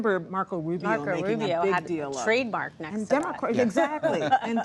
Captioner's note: laughter